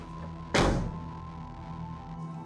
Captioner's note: door slams